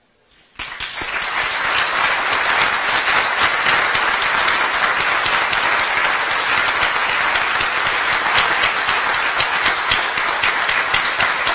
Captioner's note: applause